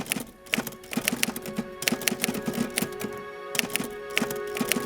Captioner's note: typewriter keys clicking; orchestral music